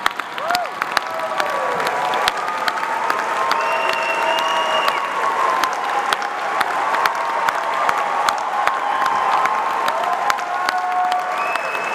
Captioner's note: applause